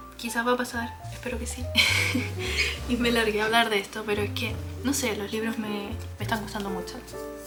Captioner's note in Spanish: risas